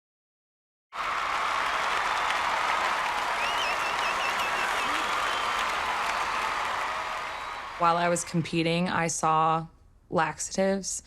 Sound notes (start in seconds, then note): 0.9 audience applauding and cheering